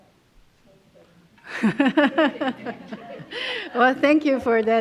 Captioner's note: laughter